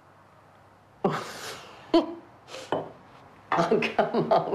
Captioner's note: laughing